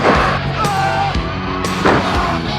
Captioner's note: body thuds; wrestler groans; body thuds